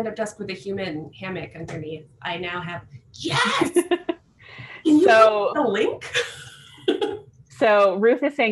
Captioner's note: laughter